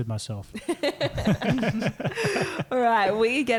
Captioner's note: laughing